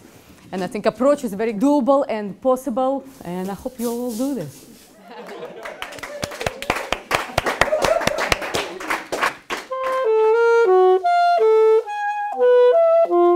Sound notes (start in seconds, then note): 5.2 clapping